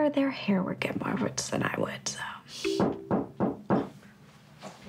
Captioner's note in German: Es klopft an der Tür